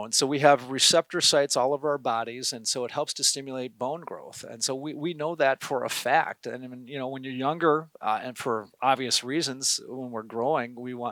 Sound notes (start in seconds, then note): none